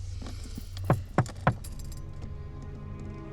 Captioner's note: window knocks; suspenseful music